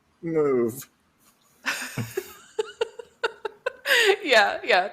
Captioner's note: laughter